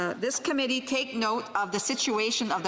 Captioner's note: speaking French